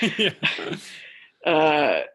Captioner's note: laughter